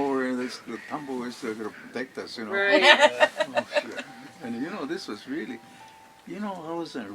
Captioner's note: laughter